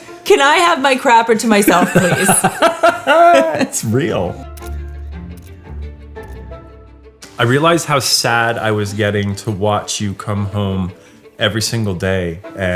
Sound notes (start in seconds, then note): 1.6 laughing; 4.5 camera shuttering